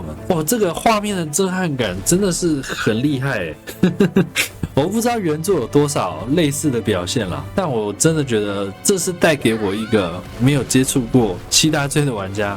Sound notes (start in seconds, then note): 3.6 laughs